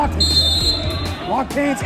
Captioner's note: referee whistling